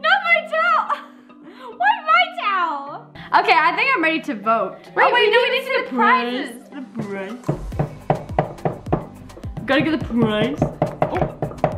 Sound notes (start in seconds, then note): 7.4 banging